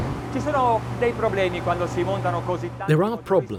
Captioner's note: speaking in foreign language